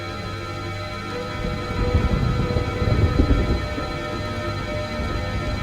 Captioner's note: thunder rumbling